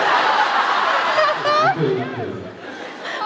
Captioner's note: laughs